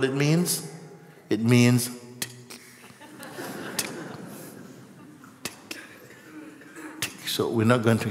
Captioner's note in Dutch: gelach